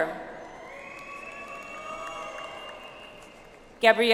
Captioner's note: audience applauds